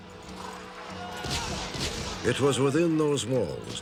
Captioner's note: gunfire